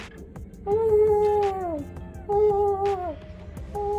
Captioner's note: vocalizes